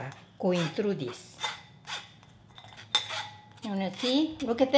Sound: metal creaking

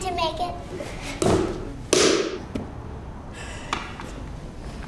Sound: clay thudding

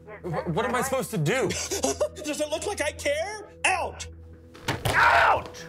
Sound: laughs

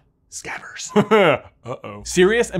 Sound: laughs

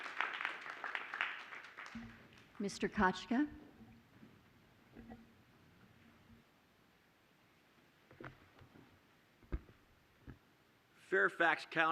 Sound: applause

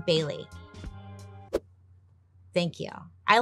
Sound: hair whooshing

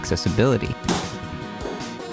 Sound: slams stick

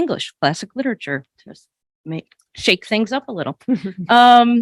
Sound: chuckles

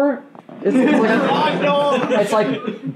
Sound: laughing

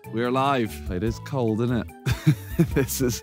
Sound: laughing

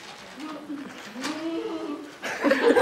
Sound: reluctant groaning; audience laughter

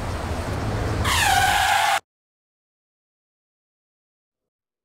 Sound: car brakes screeches

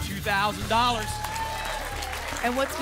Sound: applause

